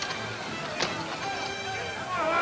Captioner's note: men yelling simultaneously